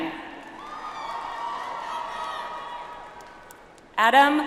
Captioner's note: audience applauds